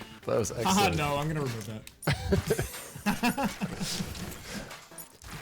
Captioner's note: players laughing